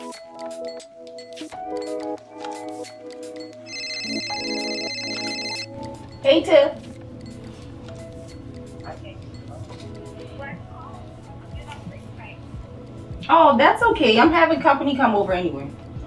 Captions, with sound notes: (phone ringing) - Hey Tiff! Oh, that's okay I'm having company come over anyway.